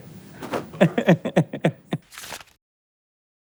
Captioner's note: laughing